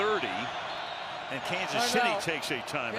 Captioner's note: whistle